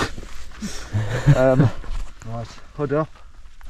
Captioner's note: all laughing